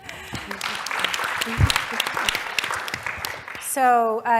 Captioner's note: laugh; applause